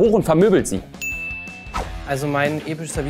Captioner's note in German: Klingeln